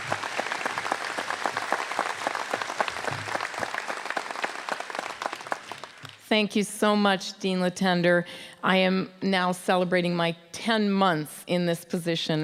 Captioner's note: applause